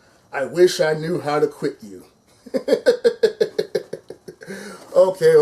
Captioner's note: laughs